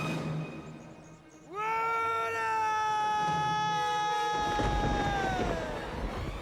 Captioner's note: thunder rumbles; Eric yells